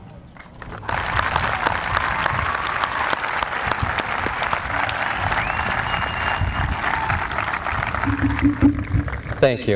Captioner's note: applause